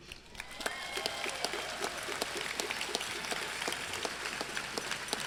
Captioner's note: crowd clapping and cheering